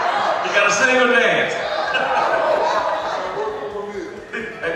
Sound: audience chattering

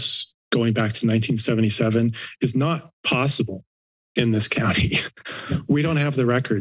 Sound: laughs

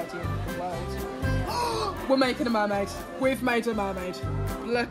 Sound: gasp

